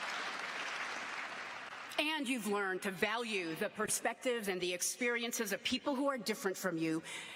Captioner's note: applause